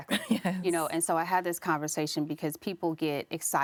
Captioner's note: laughs